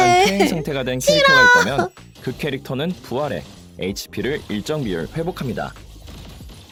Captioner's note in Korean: 웃음; 목을 가다듬음